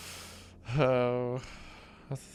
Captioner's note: sighs